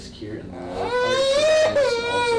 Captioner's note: baby cries